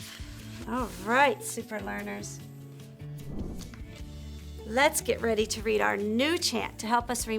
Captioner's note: air whooshing